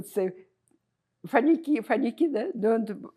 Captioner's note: russian